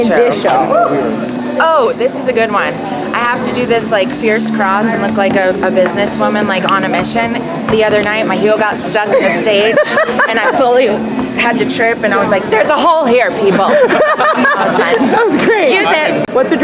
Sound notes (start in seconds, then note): 9.0 laughing; 13.5 laughing